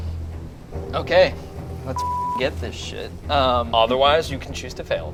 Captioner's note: beep